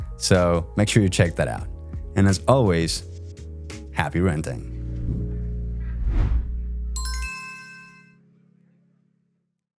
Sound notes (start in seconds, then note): 5.2 lively music; 5.8 logo whooshing